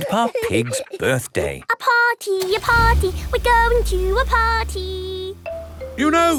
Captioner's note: giggling; sing song voice